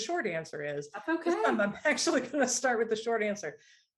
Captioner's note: laughter